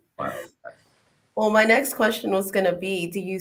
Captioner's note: laughing